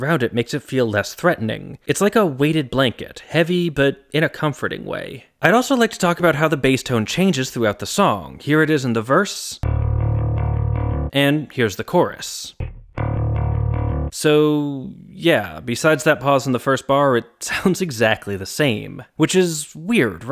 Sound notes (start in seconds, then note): 12.6 bang